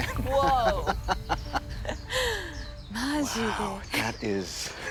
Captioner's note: chuckles; speaks Japanese; chuckles